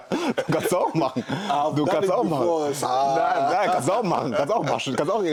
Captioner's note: gelächter